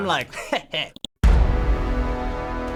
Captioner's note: mouse clicks; dramatic chord